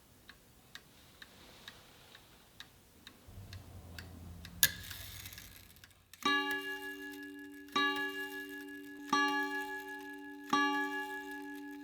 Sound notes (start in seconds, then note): 6.3 clock ringing